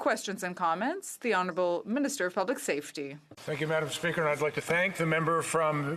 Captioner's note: applause